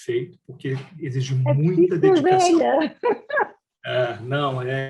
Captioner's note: laughs